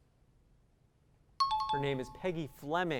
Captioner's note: pinging